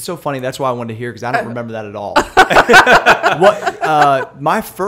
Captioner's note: laughter